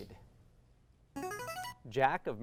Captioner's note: ringing